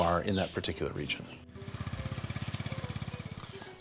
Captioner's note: motor puttering